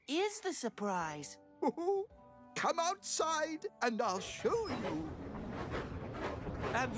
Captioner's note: chuckles